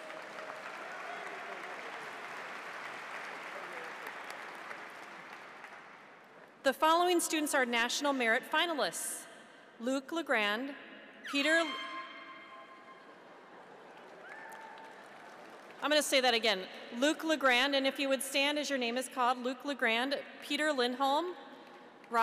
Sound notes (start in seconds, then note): 0.0 audience applauds; 11.2 horn shrieks; 13.1 audience laughs; 13.6 cheers